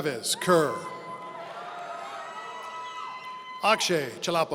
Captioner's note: audience cheering